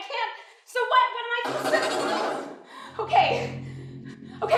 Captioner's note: computer noise